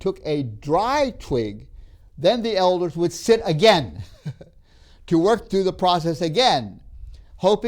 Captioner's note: laughs